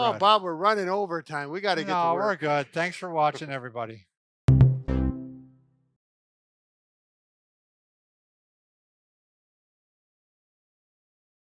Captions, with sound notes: - Oh Bob, we're running overtime, we gotta get to work. - No, we're good, thanks for watching everybody. (musical swoosh)